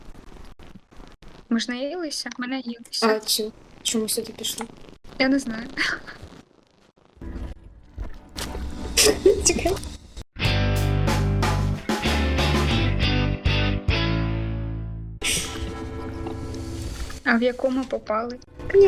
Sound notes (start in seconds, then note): 8.4 smack; 9.0 laugh